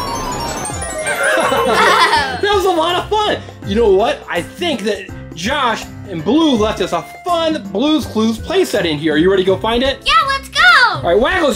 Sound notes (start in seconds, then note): 0.0 magic music; 1.1 laughter